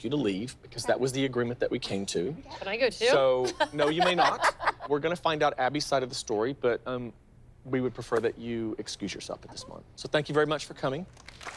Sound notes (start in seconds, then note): 3.4 laughter